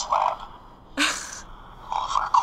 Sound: chuckles

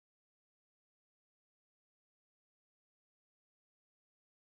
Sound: none

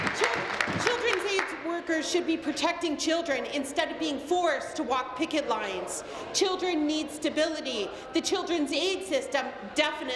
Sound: applause

